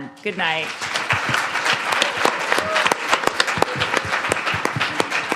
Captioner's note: audience applauding